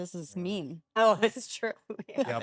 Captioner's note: laugh